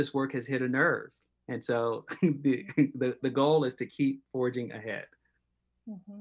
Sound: laughs

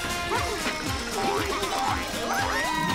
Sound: giggling; cheering

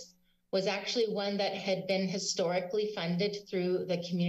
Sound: none

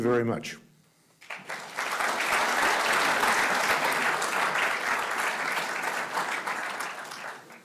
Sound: audience applauding

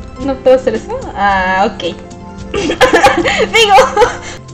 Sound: laughs

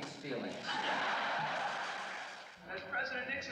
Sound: crowd laughing

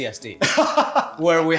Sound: laughs

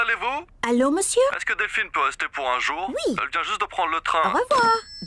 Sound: speaks french

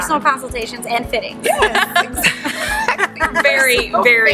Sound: laughing

